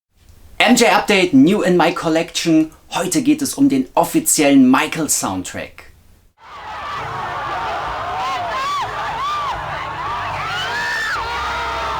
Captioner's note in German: jubel